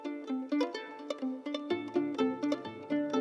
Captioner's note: none